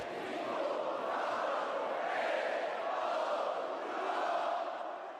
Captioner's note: crowd